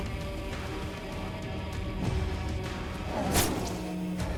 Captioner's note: sword thudding; mellow upbeat music